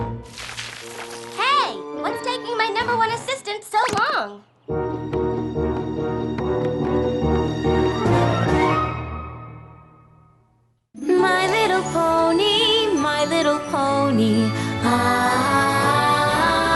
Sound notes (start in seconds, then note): none